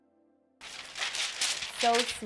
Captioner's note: paper crinkling